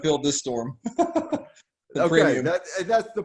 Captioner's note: laughing